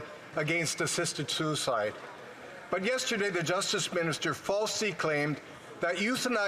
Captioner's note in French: voix de l'interprète